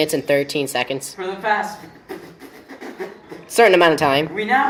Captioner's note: spitting noises